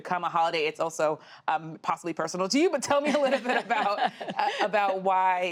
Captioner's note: laughter